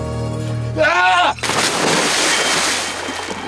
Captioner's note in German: Er schreit